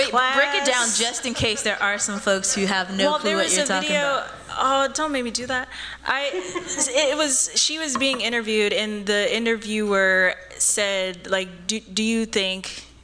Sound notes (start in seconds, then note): 6.2 laughs